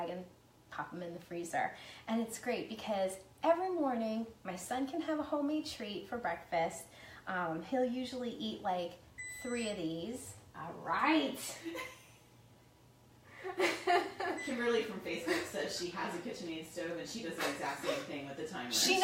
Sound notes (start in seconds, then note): 9.2 beeping; 12.0 laughing